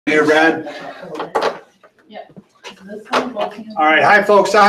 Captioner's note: people chattering